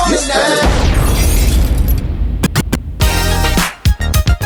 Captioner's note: bomb exploding; glass breaking; spirited pop music